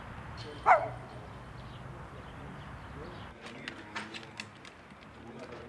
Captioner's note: birds chirping